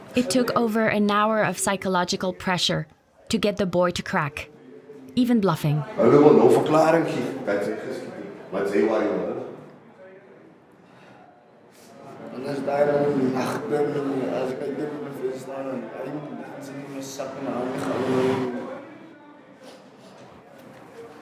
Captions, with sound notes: It took over an hour of psychological pressure to get the boy to crack, even bluffing. [Xhosa spoken audio].